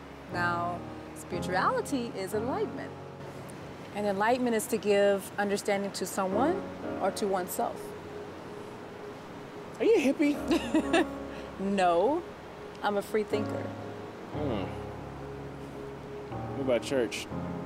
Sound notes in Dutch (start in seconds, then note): 10.4 Tracey lacht